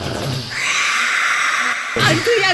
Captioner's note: whisper screams